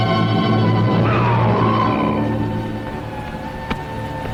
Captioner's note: Hill groaning